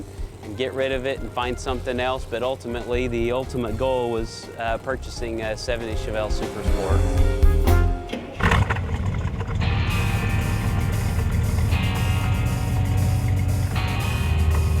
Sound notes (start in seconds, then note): 8.0 engine starts; 9.3 rock music plays